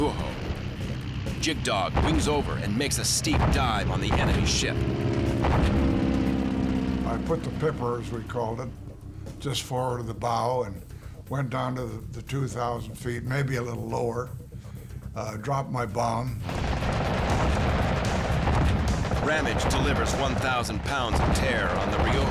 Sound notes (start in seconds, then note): 4.2 engine whirring; 16.4 gunfire